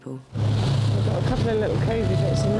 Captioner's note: boat engine revving